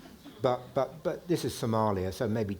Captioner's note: audience chuckling